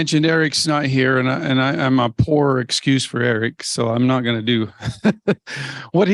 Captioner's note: laughs